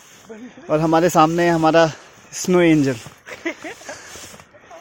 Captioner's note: laughs